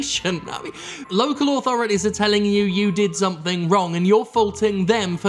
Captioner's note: chuckle